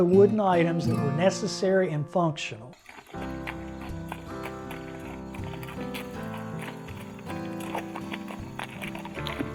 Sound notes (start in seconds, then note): 2.7 hooves clopping; 3.2 gentle music